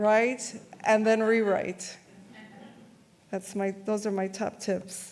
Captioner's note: audience laughs